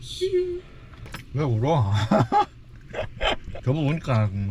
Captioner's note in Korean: 갑자기 우는